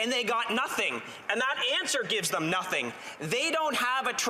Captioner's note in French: voix de l'interprète